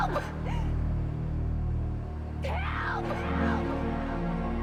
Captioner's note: breathes heavily